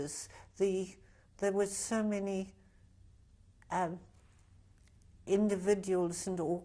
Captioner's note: pauses for 3 seconds